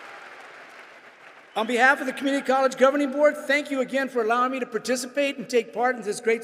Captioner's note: applause